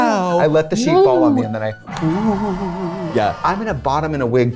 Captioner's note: people screaming